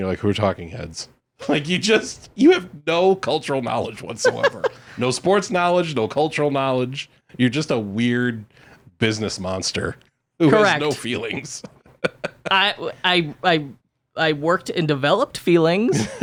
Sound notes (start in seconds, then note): 4.0 laughs; 4.1 giggles; 10.5 laughs